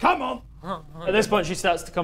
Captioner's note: zzzz